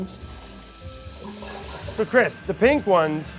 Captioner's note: water spraying